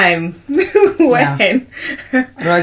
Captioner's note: laughter